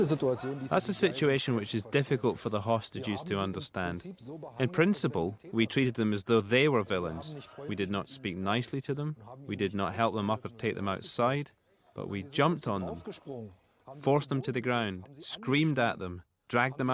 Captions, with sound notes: you come to the garage, where the tunnel starts. - [Voiceover] The robbers had dug a 60 meter tunnel from this garage, into the side of a rain sewer. Apparently, by hit and miss.